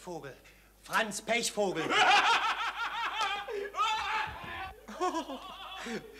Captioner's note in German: Lautes Lachen